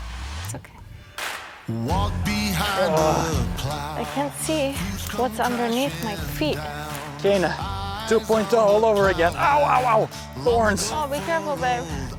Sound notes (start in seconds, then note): 2.5 groans